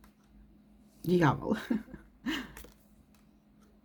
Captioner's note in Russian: смех